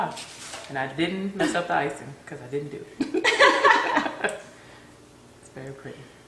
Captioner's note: laughter